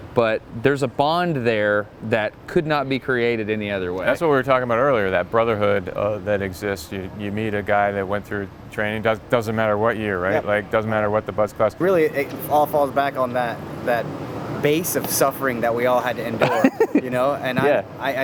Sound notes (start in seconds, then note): 16.4 laughs